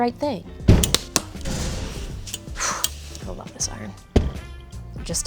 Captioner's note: exhales